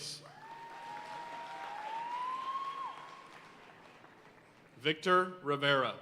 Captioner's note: audience cheering and applauding